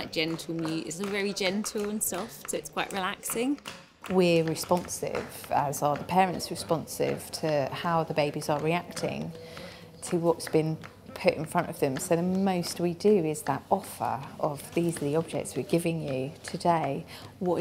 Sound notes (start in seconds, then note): 0.0 hands clapping